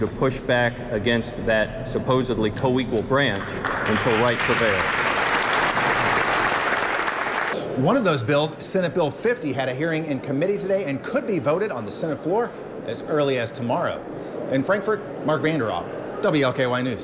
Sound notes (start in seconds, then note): 7.6 applause